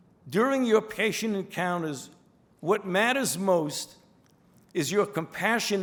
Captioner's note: none